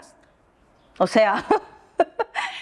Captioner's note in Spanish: Risas